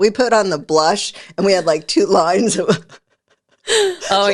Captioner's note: laughs